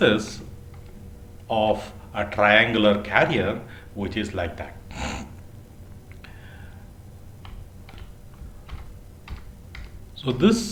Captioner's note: motor drive